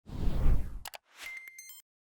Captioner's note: whooshing; beeping